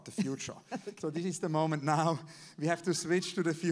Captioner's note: laughs